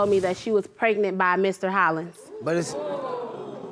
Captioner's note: crowd gasps